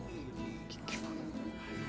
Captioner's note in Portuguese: Crodoaldo cochichando